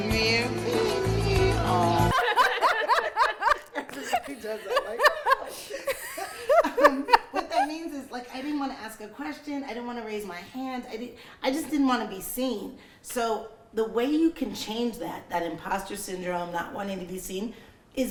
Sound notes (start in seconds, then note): 2.1 all laughing